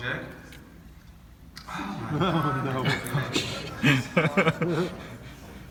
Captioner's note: crowd laughs